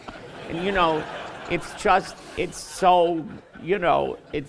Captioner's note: laughter